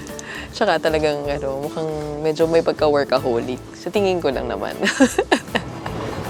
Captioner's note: laughs